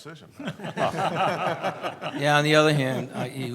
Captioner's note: laughs